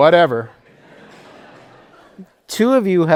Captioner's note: laughter